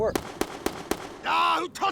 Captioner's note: gun firing